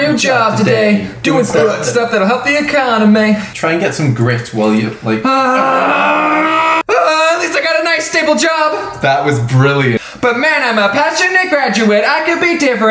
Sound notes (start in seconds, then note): 0.4 singing; 1.5 belches; 1.9 singing; 5.4 growls; 7.1 singing; 10.4 singing